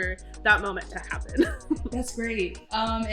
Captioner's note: laughs